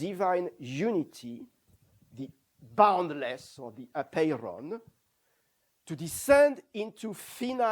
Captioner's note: non-english